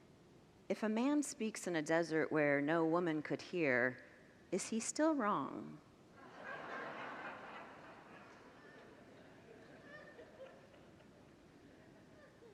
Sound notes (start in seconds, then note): 6.2 congregants laugh